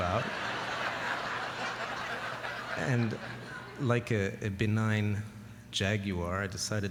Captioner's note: laughter